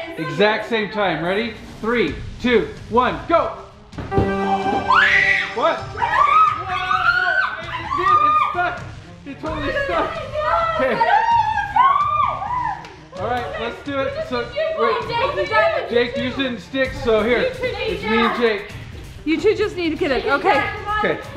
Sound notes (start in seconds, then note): 4.3 victory music; 6.0 screaming